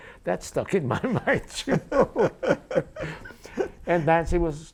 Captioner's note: laughing